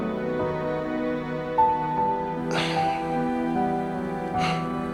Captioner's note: he sighs